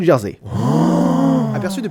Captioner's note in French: Oooohhhh !